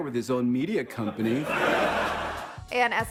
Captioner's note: audience laughs